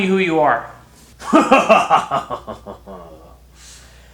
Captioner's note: evil laugh